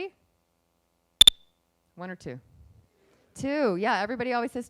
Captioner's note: beep